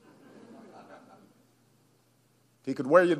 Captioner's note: laughter